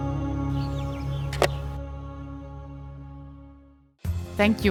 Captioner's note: helmet closes; upbeat music